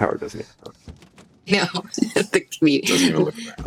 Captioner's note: chuckles